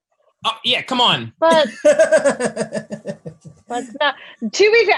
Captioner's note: laughs